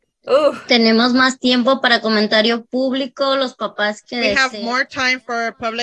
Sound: speaking Spanish

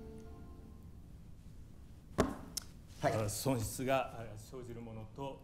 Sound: man continues in japanese

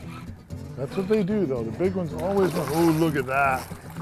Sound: splashing

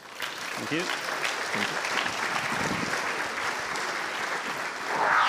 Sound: applause

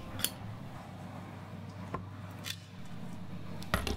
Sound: lipstick Lid Clicks On

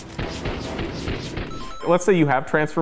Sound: Mario pause sound effect

